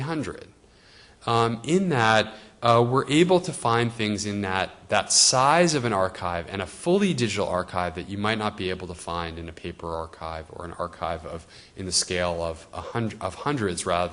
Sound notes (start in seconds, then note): none